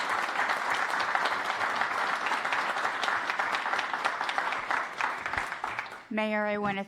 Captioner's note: applause